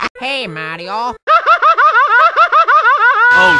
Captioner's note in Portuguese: mais gritos estranhos